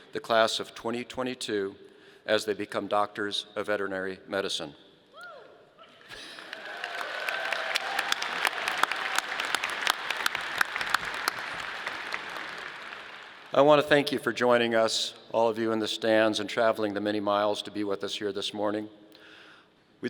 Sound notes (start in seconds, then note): 6.0 audience applauding